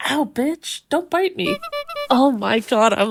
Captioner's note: clown noise